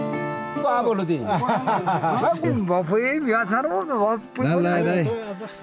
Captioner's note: friendly conversations in Gurung dialect